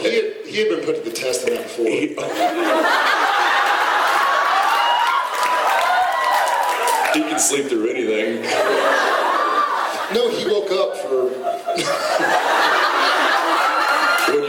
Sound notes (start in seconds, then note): 2.2 laughs; 2.2 audience laughs and cheers; 8.5 audience laughs, person whoops; 12.1 Jared and audience laugh